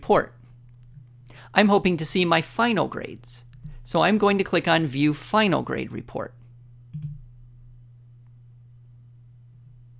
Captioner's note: click; click